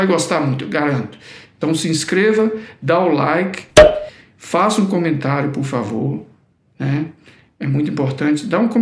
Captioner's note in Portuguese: som de rolha de garrafa estourando